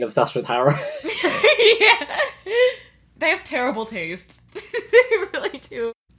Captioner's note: laughs; laughing